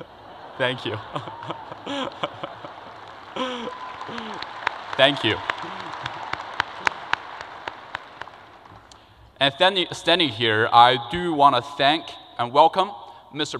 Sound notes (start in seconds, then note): 2.6 crowd applause